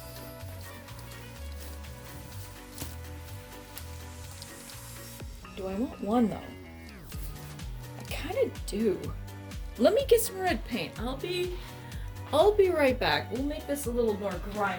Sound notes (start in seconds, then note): 0.0 more rumple paint noises; 4.5 mumble to self